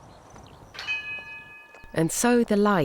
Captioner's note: bell chimes